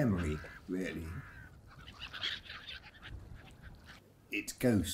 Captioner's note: birds squawking